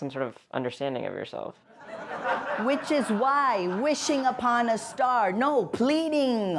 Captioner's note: soundbite of archived recording